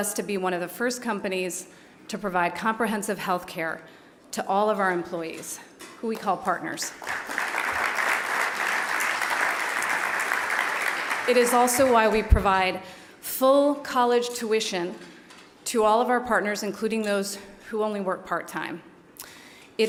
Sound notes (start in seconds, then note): 6.9 applause